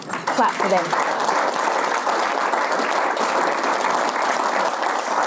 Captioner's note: audience applause